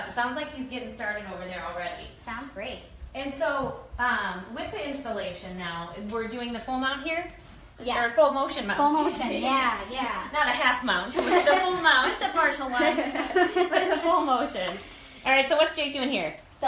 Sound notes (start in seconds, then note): 12.6 laughs